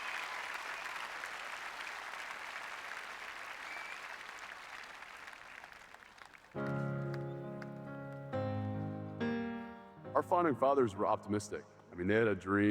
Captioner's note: applause